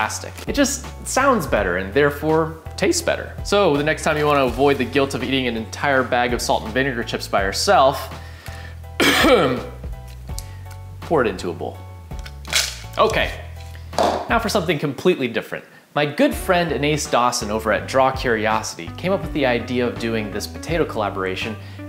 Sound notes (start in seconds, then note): 9.0 ahem